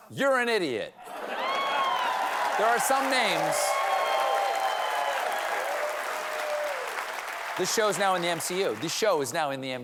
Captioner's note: laughter; cheers and applause